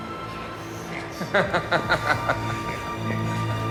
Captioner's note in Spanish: risas